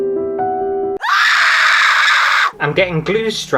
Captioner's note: screams